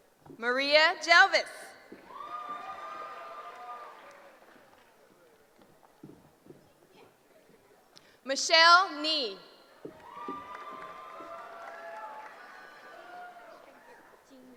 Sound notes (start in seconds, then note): 9.9 cheering